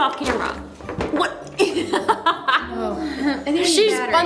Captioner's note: laughs